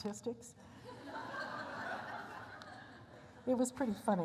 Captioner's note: laughter